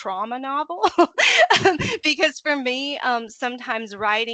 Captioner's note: laughing